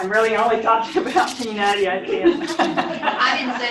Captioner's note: laughter